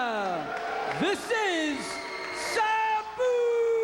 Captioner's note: spectators applauding